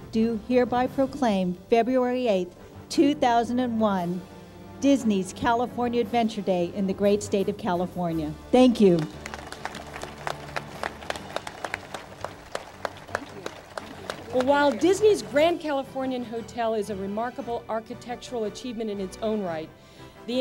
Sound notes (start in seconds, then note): 8.9 audience applauds